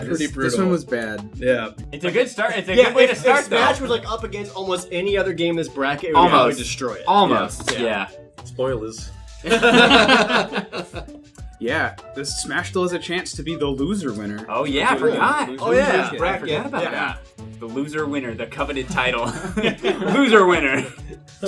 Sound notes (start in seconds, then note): 9.4 laughter; 14.6 noises of surprise